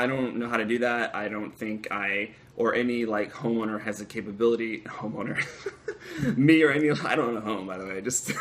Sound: laughter

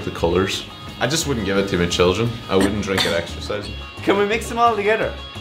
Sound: clears throat

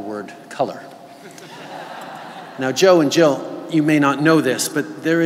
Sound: laughter

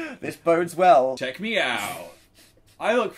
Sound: laughs

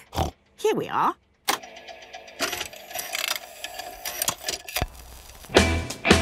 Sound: clicks, whirring

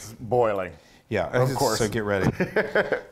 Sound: laugh

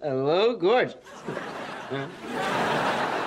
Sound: chuckles

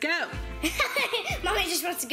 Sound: laughs

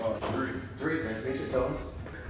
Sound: murmurs

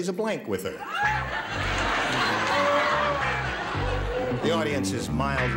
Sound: laughter

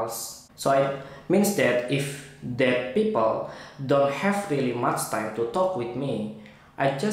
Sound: conversation

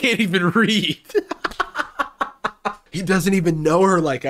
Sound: laughing

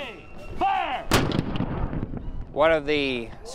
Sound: cannonshot

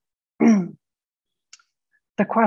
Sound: clears throat

